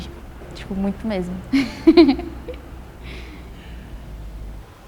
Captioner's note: laughs